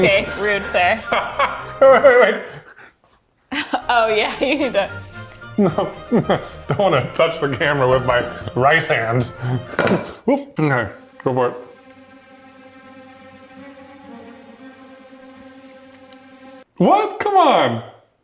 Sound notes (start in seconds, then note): 1.1 laughing; 12.0 suspenseful music